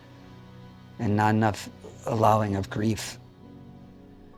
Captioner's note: none